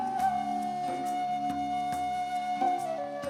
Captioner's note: none